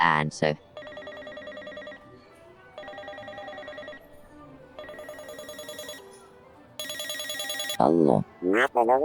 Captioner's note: phone ringing